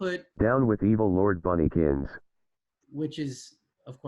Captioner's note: automated Voice